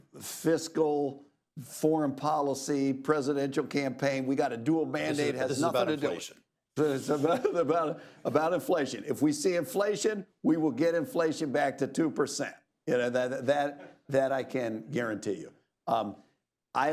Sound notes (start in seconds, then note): 6.9 laughs